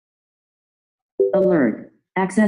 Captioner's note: chime